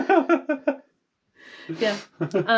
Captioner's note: laughs